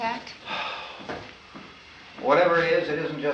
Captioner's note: sighs